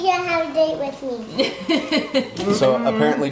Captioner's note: woman laugh